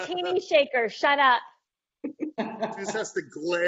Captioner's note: laughing